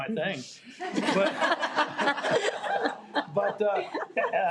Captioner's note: audience laughing